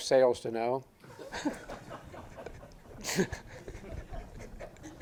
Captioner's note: audience laughing